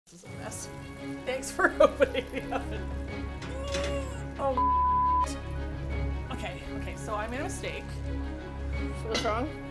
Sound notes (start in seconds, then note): 0.5 intense music; 1.7 laughing; 3.9 grunts with effort